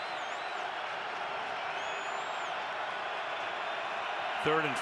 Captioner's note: cheers